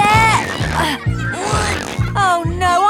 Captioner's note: grunting